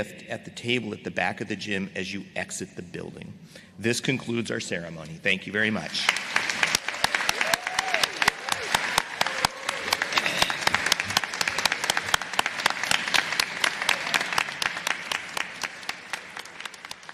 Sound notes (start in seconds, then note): 5.8 applause